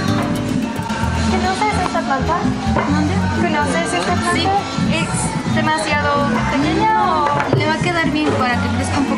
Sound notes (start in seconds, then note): 1.8 speaking in Spanish